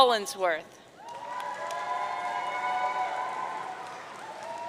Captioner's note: audience cheering